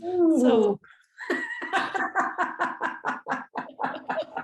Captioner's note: both laughing